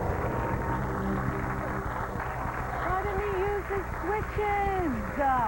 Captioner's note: applause